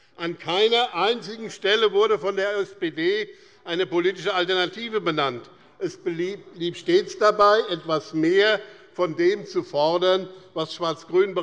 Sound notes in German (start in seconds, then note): none